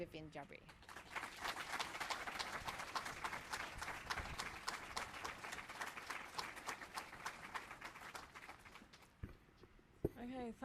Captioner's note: applause